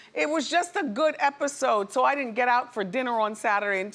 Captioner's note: none